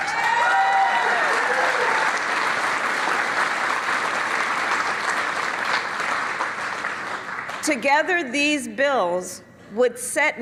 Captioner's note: cheers and applause